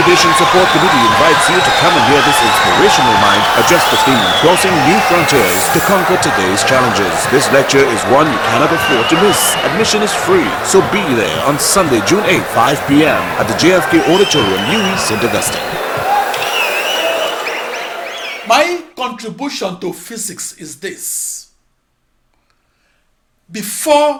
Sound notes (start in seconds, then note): 14.7 wild applause and cheering for 22 seconds